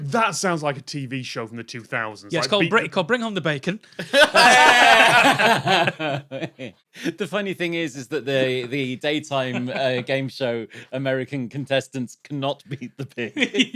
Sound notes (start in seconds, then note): 4.0 group belly laughs; 13.3 giggle